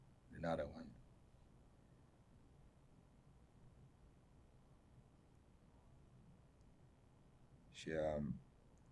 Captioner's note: pauses 6 seconds